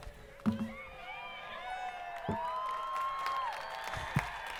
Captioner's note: crowd cheering